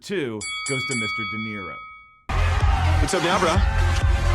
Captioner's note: bell dinging